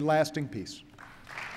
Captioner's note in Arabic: تصفيق